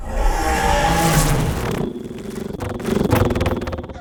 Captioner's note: creature attacking